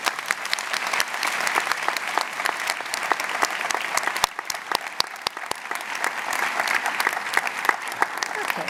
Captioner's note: applause